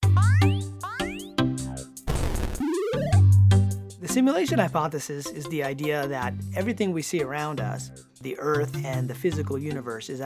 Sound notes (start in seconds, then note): 0.1 upbeat music; 0.1 video game effects